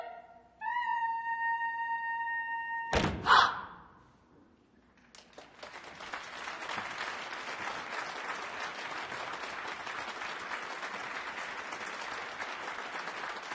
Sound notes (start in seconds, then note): 2.3 applause